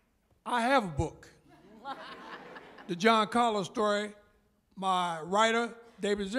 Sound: laughter

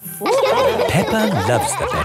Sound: all laughing

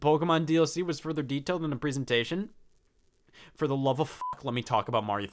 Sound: beep

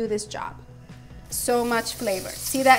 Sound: pan sizzling

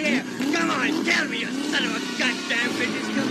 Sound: engine revving

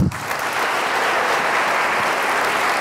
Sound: applause

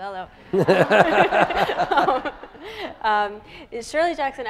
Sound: audience laughing

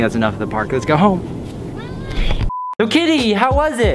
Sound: kitty rage

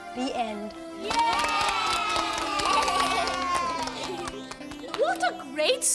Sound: kids clapping and cheering

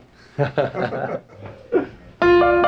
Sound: band laughing; lively piano music

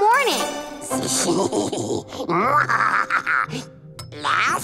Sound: evil laughter

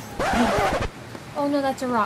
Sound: record Scratching

